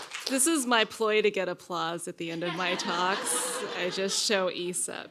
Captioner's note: applause; laughter